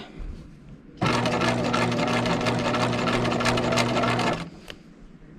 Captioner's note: sewing machine whirring